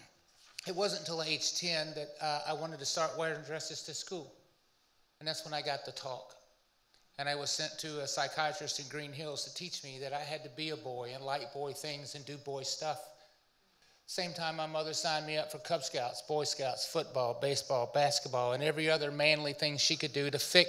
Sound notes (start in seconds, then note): none